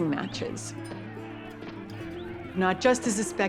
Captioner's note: crowd shouting